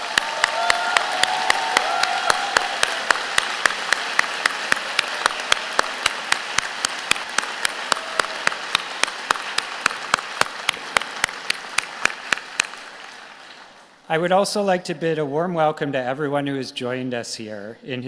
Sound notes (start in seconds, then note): 0.0 applause